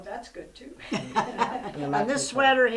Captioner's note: laughter